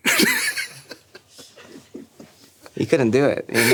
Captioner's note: laughing